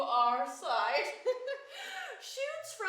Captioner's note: chuckles